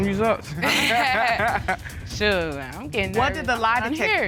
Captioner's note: laughing